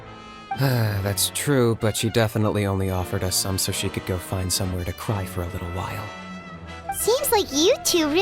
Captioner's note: sigh